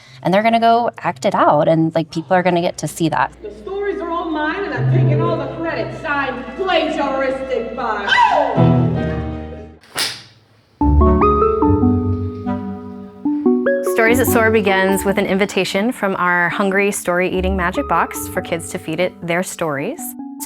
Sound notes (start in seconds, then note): 8.0 scream